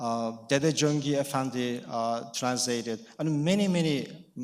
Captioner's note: speaking in foreign language